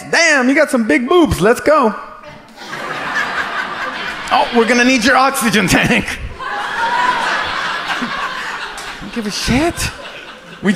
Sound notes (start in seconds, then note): 3.1 audience laughs; 6.9 audience laughs